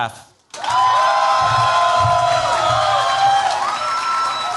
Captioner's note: cheers, applause